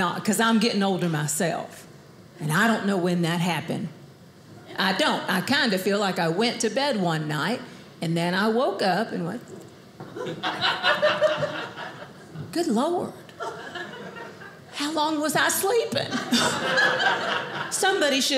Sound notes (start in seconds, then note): 10.1 audience laughing; 16.1 audience laughing